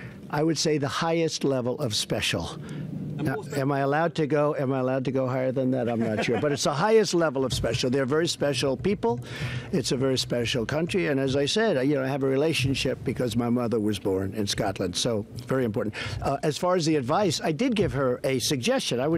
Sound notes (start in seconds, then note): 5.8 laughter